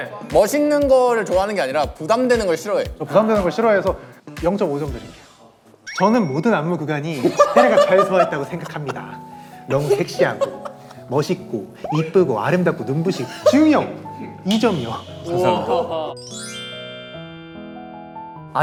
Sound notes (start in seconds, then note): 9.6 can't hold back laughter